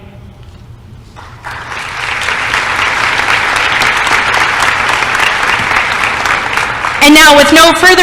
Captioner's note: applause